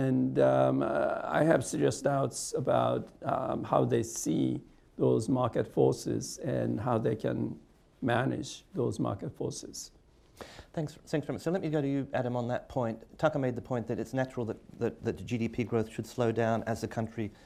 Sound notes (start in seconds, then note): none